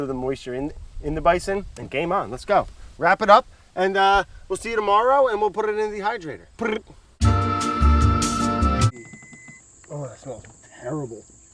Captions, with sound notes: of the moisture in the bison and game on. Let's go. Wrap it up and we'll see you tomorrow, and we'll put it into the dehydrator. [tongue trills] [relaxing music] [dehydrator beeps] Oh, that smells terrible.